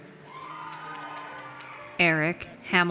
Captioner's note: audience cheers